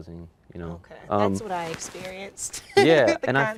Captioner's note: laughs